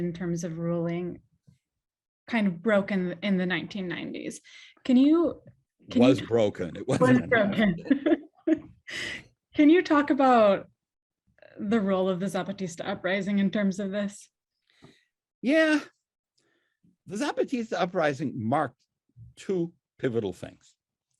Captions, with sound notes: in terms of ruling kind of broken in the 1990s, can you... - It was broken, it was. - It was broken. (laughs) Can you talk about the role of the Zapatista Uprising, in terms of this? - Yeah, the Zapatista uprising marked two pivotal things.